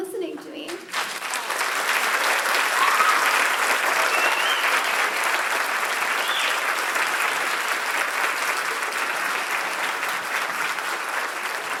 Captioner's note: applause